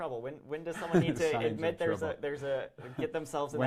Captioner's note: laughs